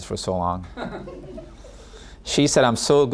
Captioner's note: audience laughing